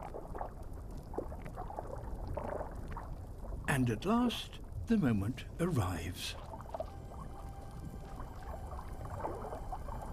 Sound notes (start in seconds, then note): none